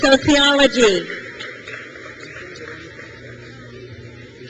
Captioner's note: crowd cheers